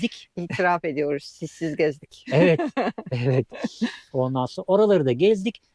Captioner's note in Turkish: kahkaha